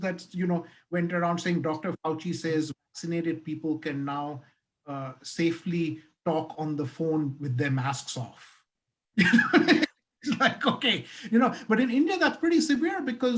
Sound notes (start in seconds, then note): 9.3 laughing